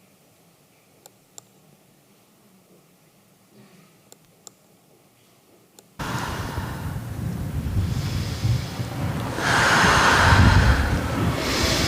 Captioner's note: rythmic Breathing